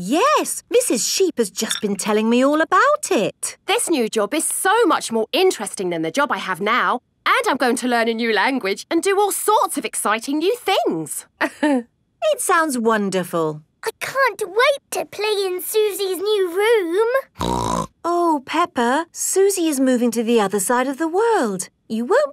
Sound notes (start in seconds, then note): 17.4 snorts